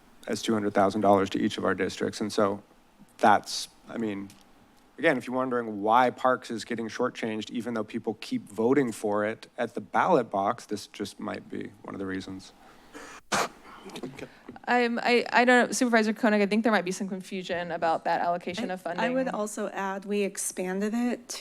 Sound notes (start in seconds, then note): 12.9 coughs